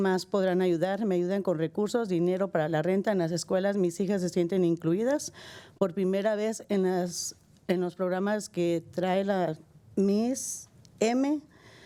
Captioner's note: speaking spanish